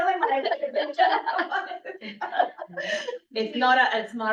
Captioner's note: laughs